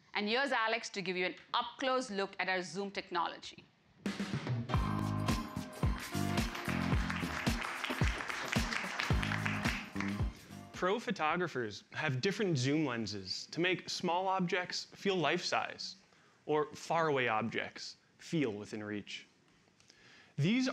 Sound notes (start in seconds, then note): 5.8 applause